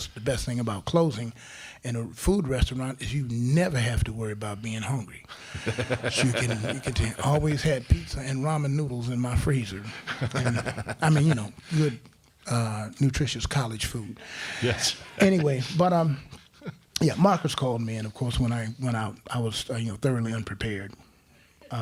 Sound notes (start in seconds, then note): 5.4 crowd laughing; 9.9 laughs; 14.7 crowd laughing